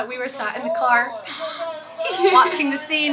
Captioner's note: laughing